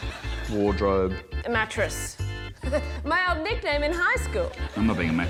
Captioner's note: laughs